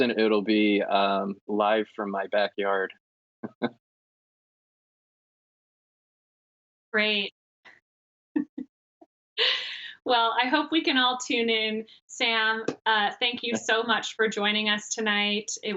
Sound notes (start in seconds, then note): 3.5 laughing; 7.3 laughing